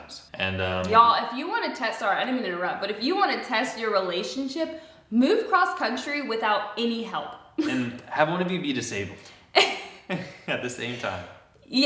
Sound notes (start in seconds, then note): 7.6 chuckles; 9.5 both laugh